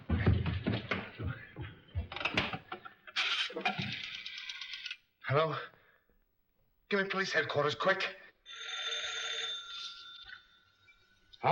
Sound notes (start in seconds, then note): 0.0 feet scrambling; 3.9 dial rattling; 8.4 phone rings